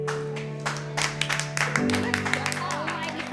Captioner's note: applause